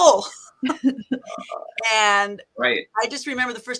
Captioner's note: laughs